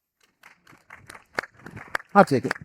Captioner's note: audience applauding